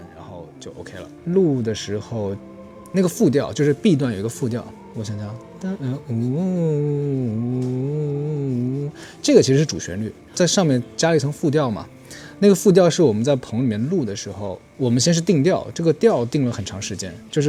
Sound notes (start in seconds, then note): 6.2 humming the countermelody